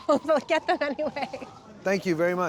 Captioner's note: laughing